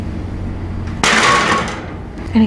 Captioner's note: clang